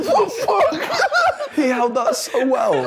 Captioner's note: group laughing continues